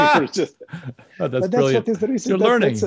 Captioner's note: laughs